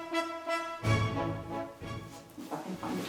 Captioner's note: fabric rustling